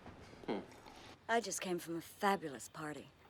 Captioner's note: none